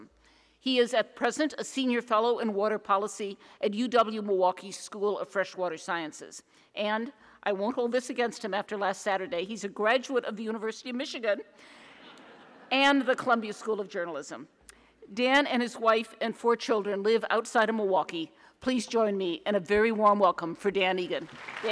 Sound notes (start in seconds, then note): 12.0 audience laughs